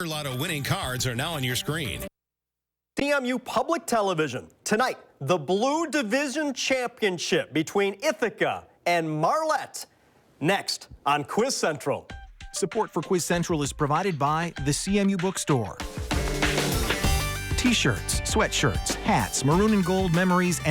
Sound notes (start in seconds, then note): 12.6 voiceover